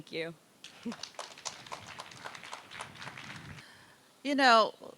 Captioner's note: applause